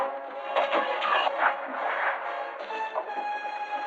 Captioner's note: splashing